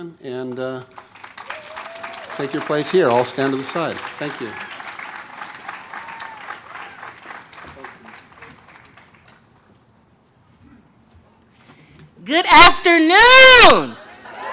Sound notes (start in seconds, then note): 5.8 audience cheers